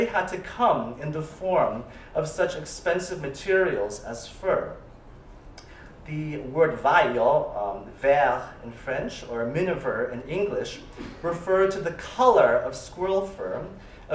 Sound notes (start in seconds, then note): 6.7 non-english; 7.9 french